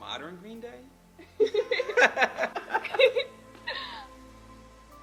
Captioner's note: both laughing